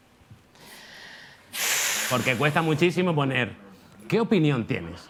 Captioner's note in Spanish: resopla